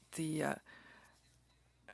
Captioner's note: speaking French